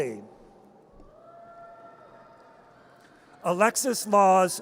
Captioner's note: audience cheers